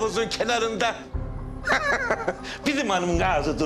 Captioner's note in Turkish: Gülme sesi